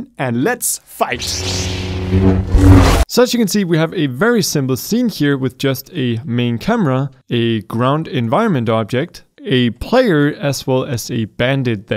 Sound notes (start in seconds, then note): 1.2 laser hum